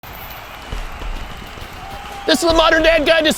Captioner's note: crowd cheers